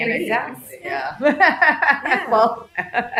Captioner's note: laughing